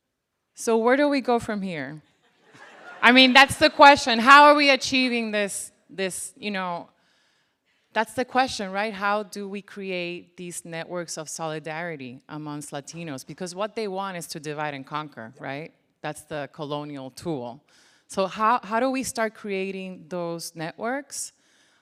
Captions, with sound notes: So where do we go from here? (crowd laughing) I mean, that's the question. How are we achieving this, you know, that's the question, right? How do we create these networks of solidarity, amongst Latinos? Because what they want is to divide and conquer, right? That's the colonial tool. So how do we start creating those networks?